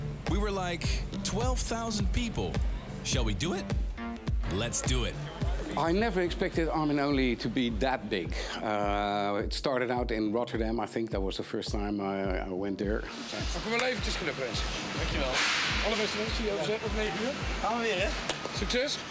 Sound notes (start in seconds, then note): 13.9 speaks in foreign language